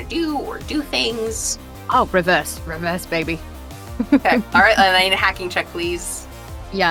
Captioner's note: chuckles